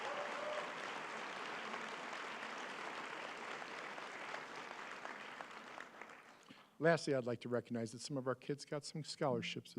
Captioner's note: applause